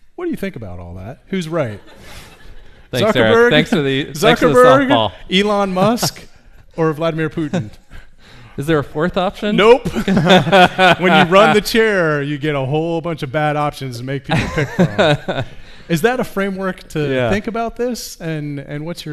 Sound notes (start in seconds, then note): 1.6 audience laughs; 9.5 men laugh; 14.3 laughs